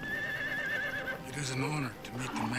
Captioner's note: horse neighs